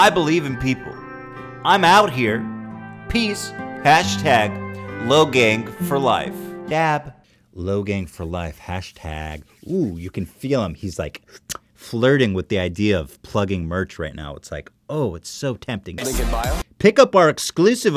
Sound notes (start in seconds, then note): 6.6 mockingly; 11.3 kissing noise